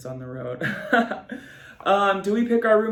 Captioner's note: laughs